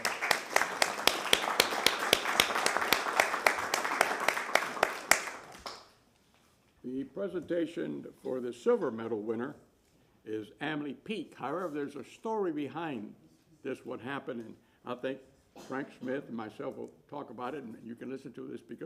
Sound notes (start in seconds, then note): 3.7 applause